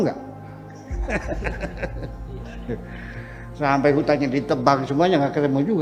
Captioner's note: laughs